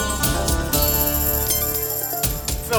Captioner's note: laughing